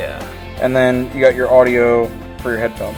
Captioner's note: voiceover